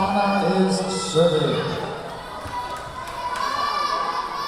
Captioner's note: whistle blowing; yelling